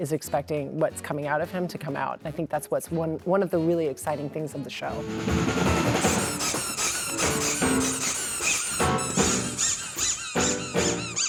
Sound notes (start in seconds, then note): 4.9 upbeat music; 5.8 rubber ducks squeaking